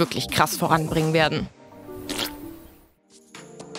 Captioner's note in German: Furzgeräusch